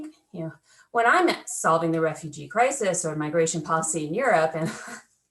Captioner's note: laughter